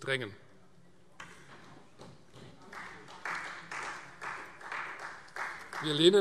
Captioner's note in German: Beifall Freie Demokraten